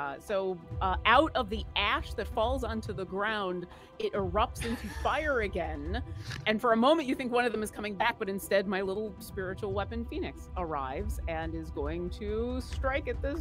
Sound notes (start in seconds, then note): 4.6 laughs